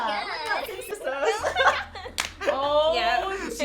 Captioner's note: laughs